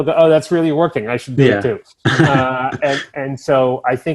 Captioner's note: chuckles